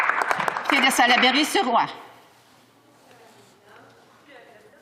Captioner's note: some Applause